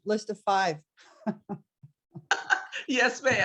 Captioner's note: laughs